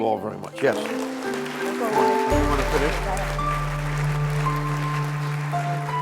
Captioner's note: applause